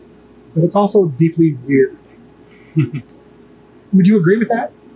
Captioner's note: laughs